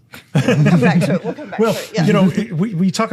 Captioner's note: all laughing